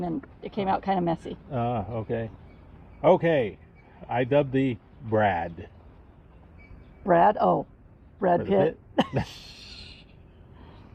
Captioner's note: laughing